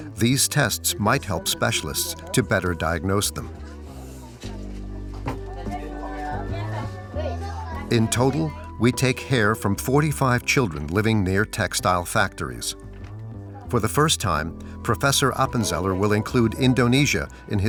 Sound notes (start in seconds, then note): 4.1 people chattering